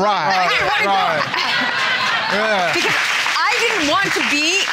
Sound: laughter

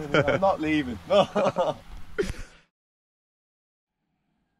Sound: both laughing

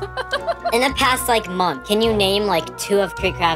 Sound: laughs

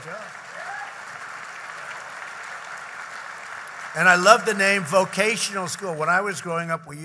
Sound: applause

